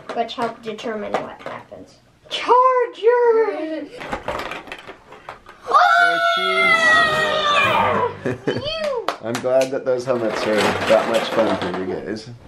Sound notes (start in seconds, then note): 5.6 children shout; 8.0 laughs